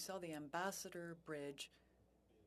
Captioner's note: speaking French